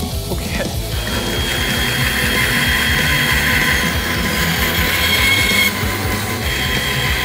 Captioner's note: saw buzzing